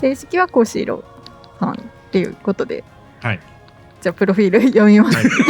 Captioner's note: laughs; laughter